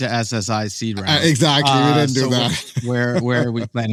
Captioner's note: laughs